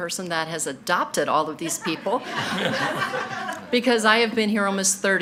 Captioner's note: everyone laughing